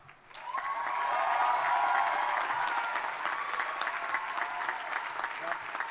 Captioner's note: crowd cheering; audience members cheering